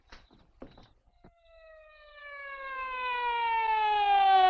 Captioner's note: siren blaring